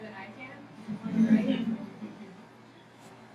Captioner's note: laughing